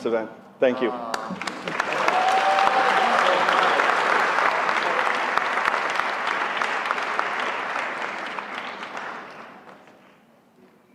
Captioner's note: applause